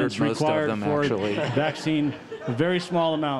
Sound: laughter

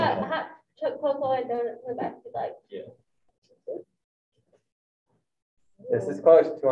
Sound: group chattering

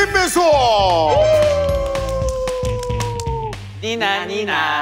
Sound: clap

